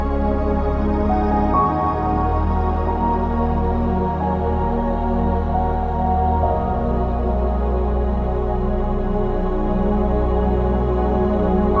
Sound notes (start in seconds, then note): none